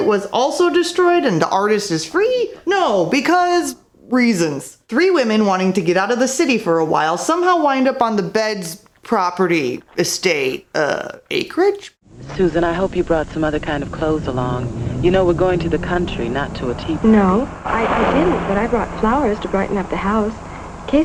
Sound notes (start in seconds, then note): none